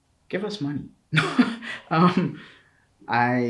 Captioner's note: laughs